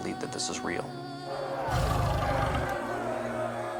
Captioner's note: growling